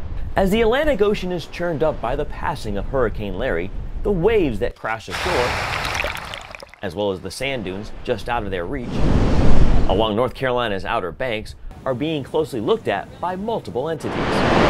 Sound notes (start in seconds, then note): 0.3 natural Sound waves; 4.8 wave sound; 9.0 wind noise; 14.0 waves